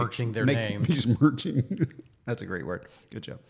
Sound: laughs

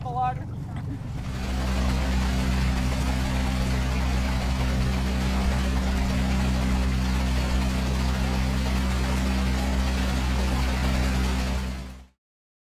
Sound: water and engine noise

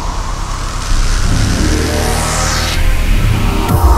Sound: crackling electricity

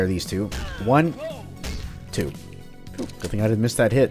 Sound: thwack

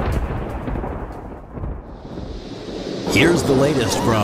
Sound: thunder

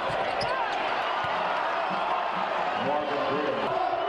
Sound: audience cheers

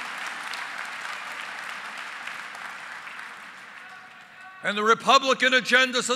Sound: applause

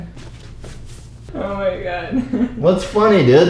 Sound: laughs

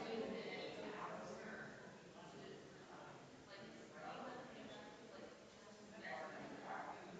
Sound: people chattering distantly continues

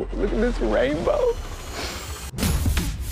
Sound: sniff

